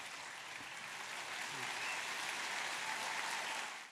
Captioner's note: applause